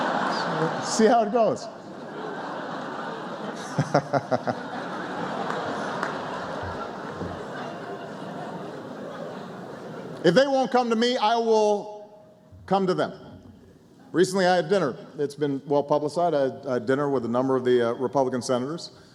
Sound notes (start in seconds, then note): 0.0 laughter; 1.8 applause; 10.6 laughter